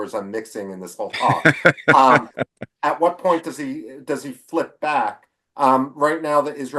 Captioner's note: laughs